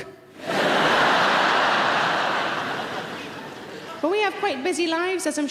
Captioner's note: audience laughing